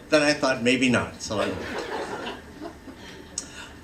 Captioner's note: laughter